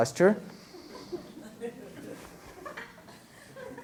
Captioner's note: laughter